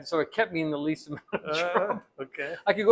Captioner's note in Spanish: ríe